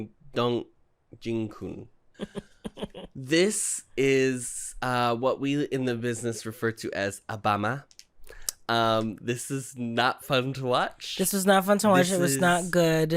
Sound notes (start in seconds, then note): 2.2 chuckling; 6.8 boston accent